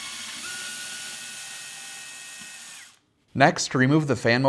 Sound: drilling

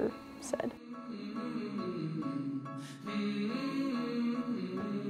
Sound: soothing humming

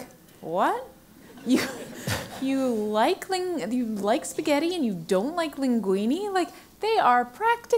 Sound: laugh

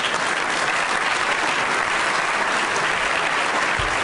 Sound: applause

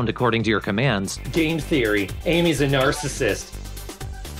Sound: mocking tone

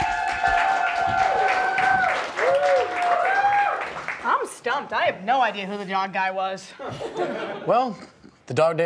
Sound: applause

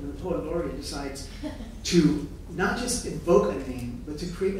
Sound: laughing

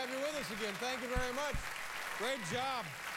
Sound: cheers and applause

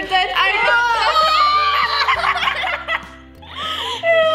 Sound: screaming

